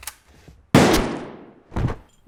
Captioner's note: gun Fire